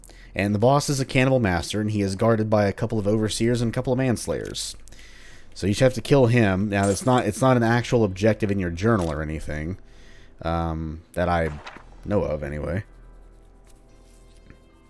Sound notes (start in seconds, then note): 11.4 journal opens